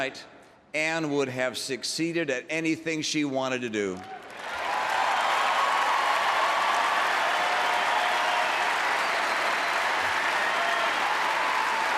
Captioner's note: applause